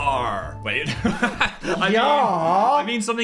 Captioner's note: laughs